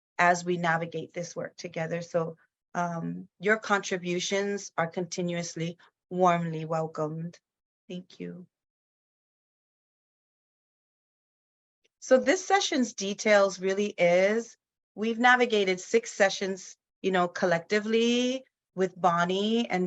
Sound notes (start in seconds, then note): none